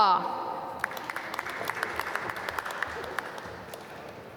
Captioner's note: applause